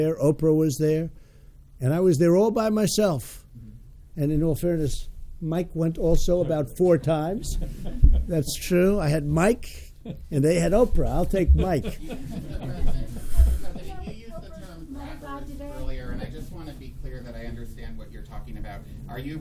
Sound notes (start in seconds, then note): 11.4 laughter